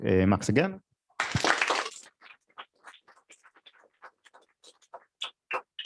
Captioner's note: applause